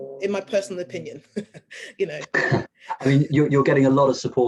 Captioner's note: chuckling